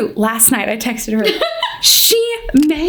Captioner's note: laughs